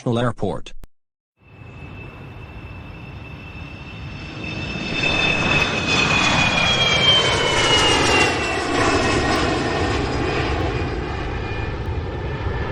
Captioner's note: plane takes off